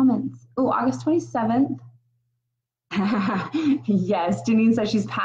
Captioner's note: laughs